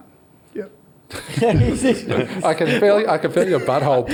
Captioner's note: all laugh